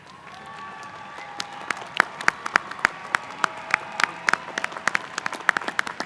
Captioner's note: applause